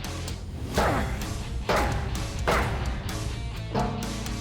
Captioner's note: grunting; drum clangs